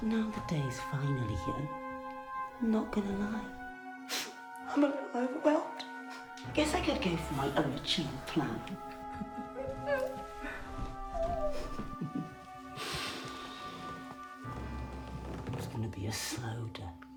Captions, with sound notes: Now, the day's finally here, I'm not gonna lie, I'm a little overwhelmed. I guess I go for my original plan. (Faye laughing) (dramatic music) It was gonna be a slow death.